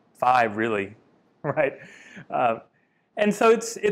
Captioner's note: laughing